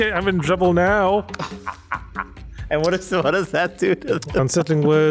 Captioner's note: laugh